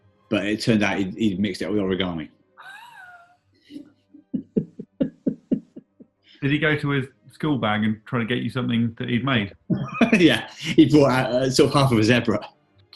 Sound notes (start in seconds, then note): 2.7 chuckling; 7.4 laughs